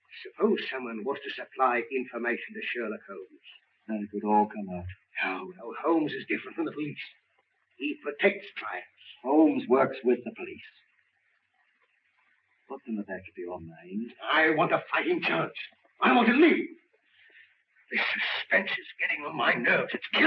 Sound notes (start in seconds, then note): none